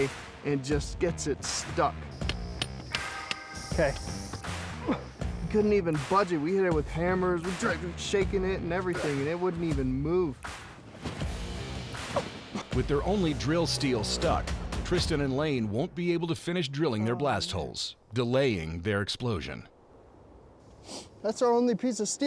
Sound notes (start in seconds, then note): 2.2 hammering; 5.5 grunts